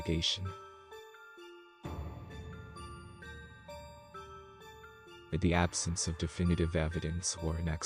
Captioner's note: voice-over